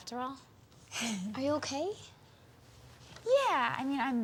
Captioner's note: Eliza sighs